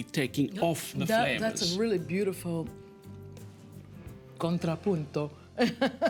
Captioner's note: laughs